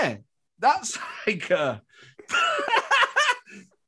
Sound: laughs

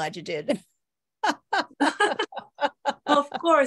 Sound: laugh

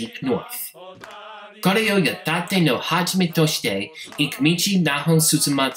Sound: speaking Japanese

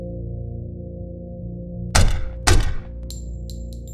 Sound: gunshots

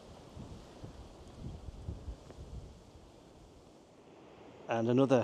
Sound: wind blowing

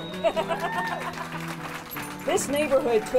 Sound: crowd applauding

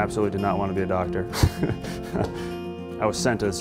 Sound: laughs

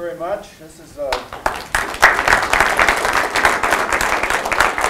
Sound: applause

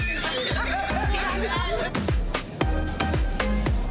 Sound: group laughing

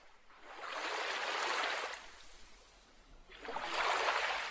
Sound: splashing water

